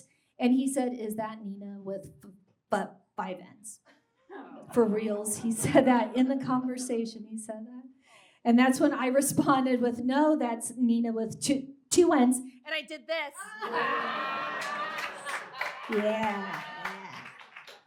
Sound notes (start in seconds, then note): 13.6 audience cackles and claps